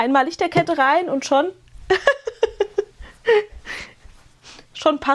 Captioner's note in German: gelächter